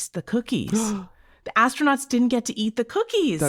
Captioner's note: person gasping